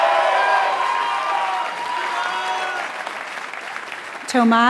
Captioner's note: applause